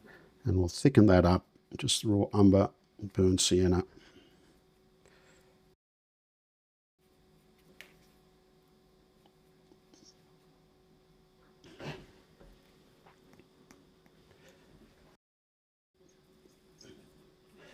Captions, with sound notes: And we'll thicken that up. Just raw Umber and burnt sienna. [Silence]